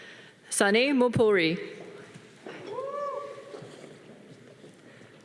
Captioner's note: audience cheering